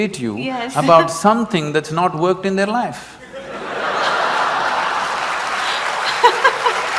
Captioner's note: laughter & Applause